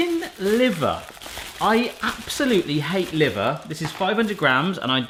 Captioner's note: plastic rustling